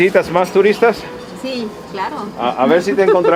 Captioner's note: in Spanish